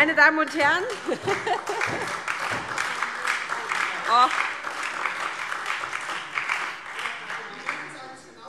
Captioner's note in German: Heiterkeit und Beifall SPD und DIE LINKE - Zurufe